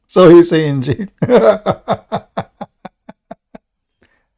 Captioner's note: Ketawa